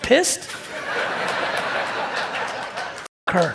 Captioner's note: audience laugh and applaud